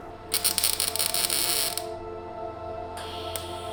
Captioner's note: welder crackling softly; mellow synth tone